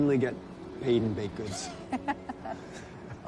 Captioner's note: laughing